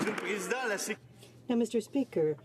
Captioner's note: applause